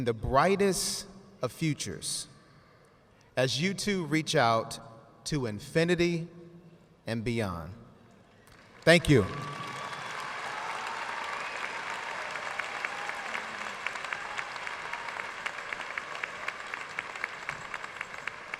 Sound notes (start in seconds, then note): 8.4 audience cheering and applauding